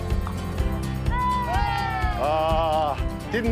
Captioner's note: cricketers cheering